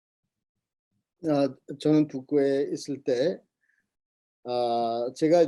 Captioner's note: speaking Korean